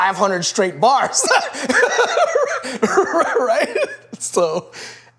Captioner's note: laughs